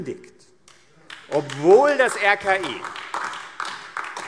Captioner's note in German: Beifall AfD